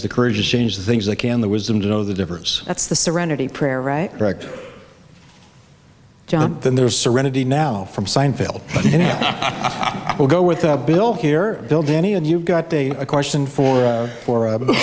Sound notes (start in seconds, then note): 8.7 laughs